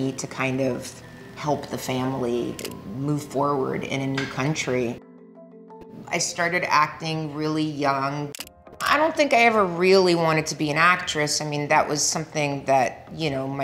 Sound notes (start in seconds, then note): 8.1 camera snapping consecutively